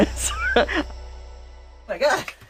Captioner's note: laughs